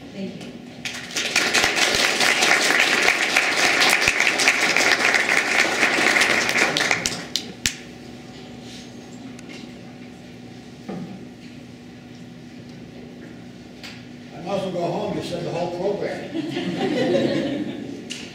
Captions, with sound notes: Thank you. [Applause] >>I might as well go home. You said the whole program. [Laughing]